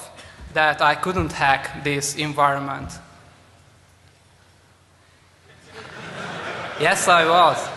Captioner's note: laughter